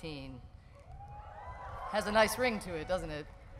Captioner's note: whooping